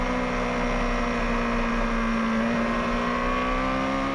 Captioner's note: motorbike roaring